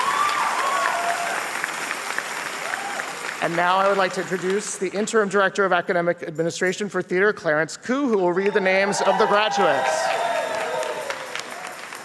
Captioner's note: applause and cheers